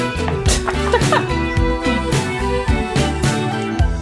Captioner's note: giggles